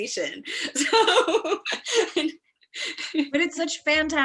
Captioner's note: laughs